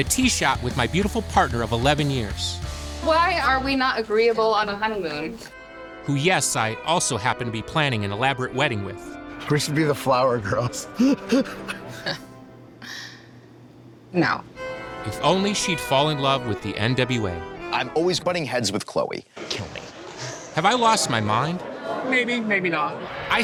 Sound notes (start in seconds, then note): 10.5 laughs; 10.8 scoffs